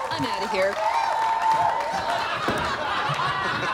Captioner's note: laughter